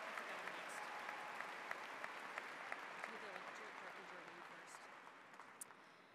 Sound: audience applauds; chattering quietly, off mic

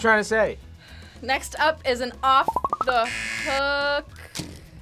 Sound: buzzer

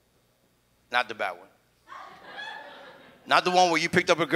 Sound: audience laughs

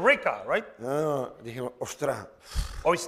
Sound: speaking spanish

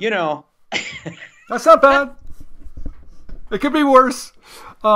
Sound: laughs

